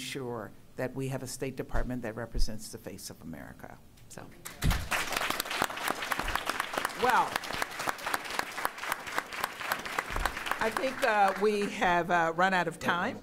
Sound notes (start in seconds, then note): 4.4 applause